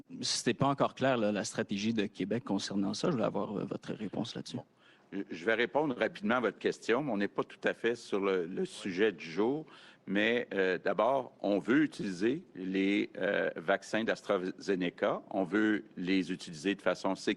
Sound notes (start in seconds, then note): 9.3 speaks French